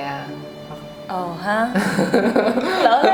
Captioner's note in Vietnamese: cười